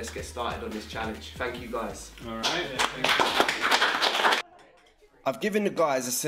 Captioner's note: everyone claps